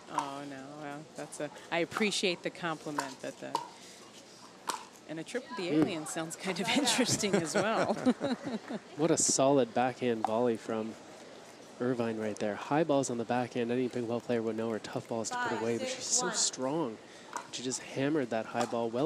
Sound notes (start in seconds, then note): 8.3 laughs